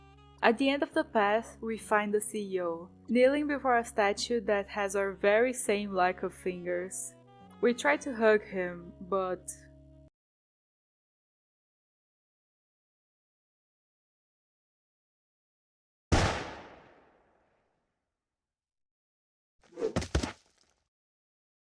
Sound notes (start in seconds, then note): 16.1 shot